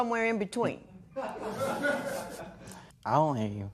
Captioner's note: laughter